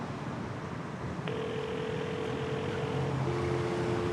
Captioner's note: phone ringing; dial tone buzzing